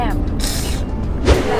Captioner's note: slurps